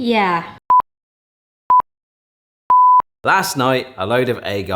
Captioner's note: beeping